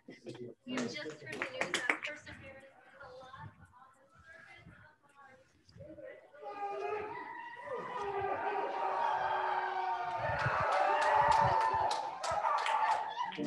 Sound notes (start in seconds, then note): 6.4 scientists cheering